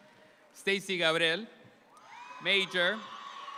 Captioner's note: audience applauds